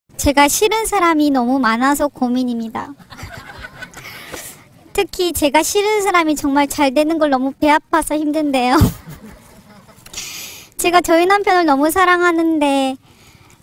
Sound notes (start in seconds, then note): 3.0 audience Laughter